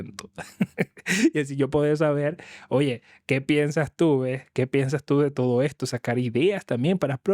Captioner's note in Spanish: risas; carraspeo